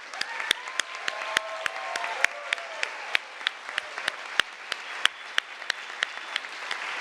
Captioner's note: applause, cheering